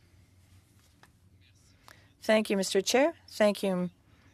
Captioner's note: speaking French